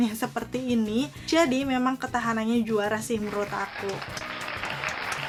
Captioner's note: applause